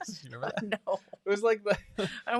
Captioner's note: both laughing